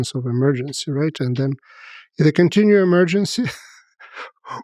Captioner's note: laughs